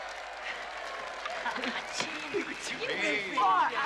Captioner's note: Аплодисменты публики